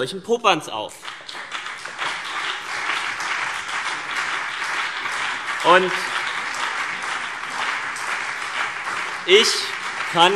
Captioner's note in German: Beifall CDU und BÜNDNIS 90/DIE GRÜNEN